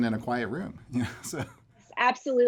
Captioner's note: chuckling